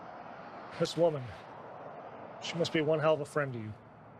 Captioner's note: none